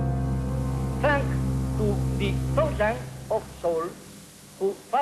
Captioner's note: speaking heavily-accented English